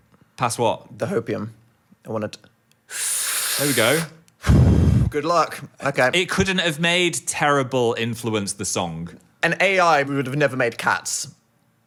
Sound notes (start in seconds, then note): 2.9 exhales; 2.9 inhales